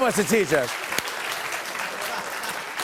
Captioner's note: applause